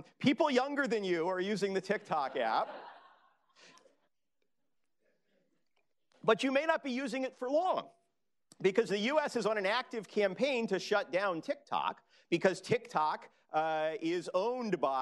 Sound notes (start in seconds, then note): 2.0 laughter